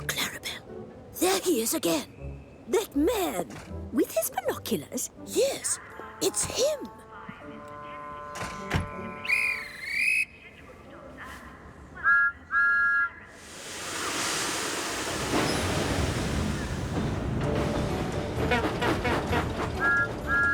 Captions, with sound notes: THERE HE IS AGAIN! THAT MAN! - WITH HIS BINOCULARS? - YES. IT'S HIM. [whistle chirps] [whistle toots] [train engine chugging] [whistle toots]